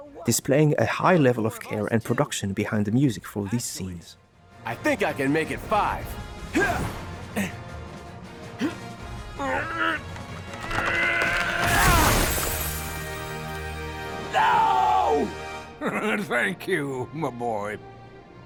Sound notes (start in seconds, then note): 10.6 painful groaning